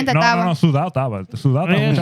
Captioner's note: speaking In Foreign Language